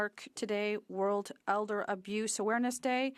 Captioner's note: speaking French